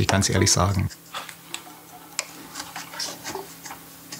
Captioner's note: soft grinding